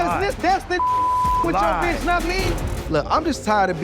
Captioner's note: beep